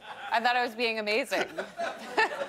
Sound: laughter

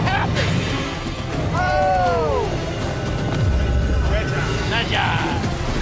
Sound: yelling

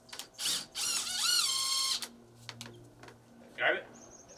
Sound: drill whirring

